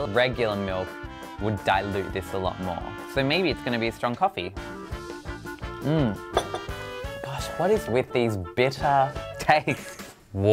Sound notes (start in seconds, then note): 4.8 upbeat music; 6.3 glass clatters